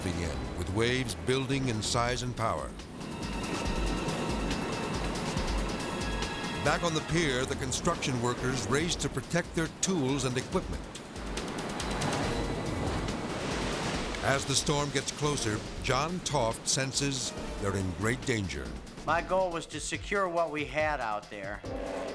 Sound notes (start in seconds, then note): 3.0 suspenseful music; 3.0 waves rumbling; 12.5 suspenseful music; 12.5 waves roaring